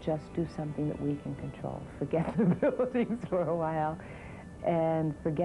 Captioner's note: laughing